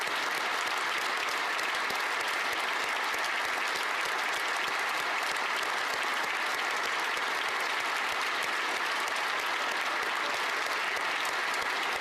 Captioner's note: applause